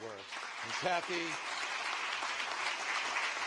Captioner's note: applause